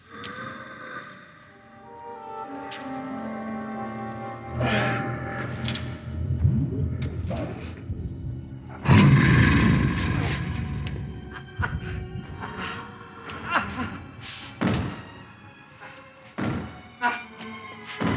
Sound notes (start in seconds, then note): 0.0 Donald growling; 0.2 dramatic music; 12.4 Leslie grunting; 12.4 footsteps thudding